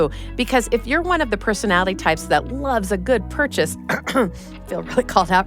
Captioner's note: ahem